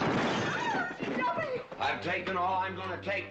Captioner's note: screaming